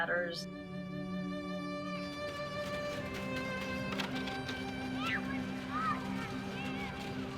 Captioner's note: soft poignant music; children chattering